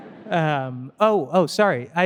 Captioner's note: audience laughing